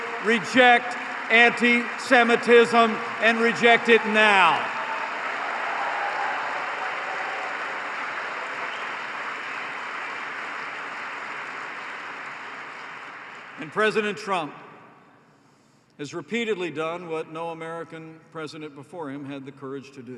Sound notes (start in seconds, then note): 11.9 applause